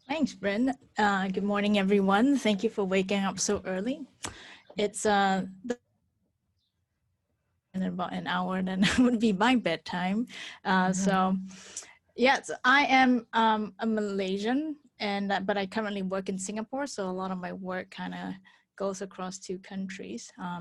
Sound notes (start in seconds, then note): 4.6 mic cuts out; 8.5 laughs